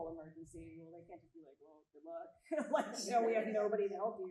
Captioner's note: chuckles